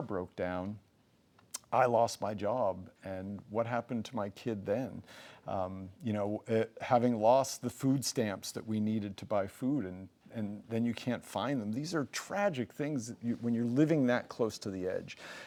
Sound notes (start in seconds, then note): 1.4 lips smack